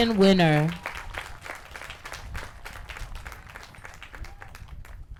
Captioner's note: applause